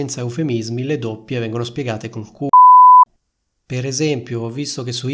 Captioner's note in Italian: beep